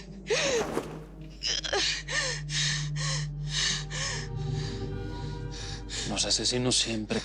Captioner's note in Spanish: Sollozos